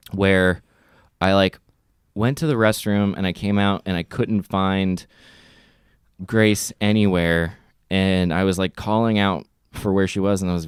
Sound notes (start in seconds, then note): none